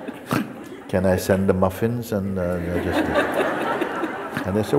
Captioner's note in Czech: smích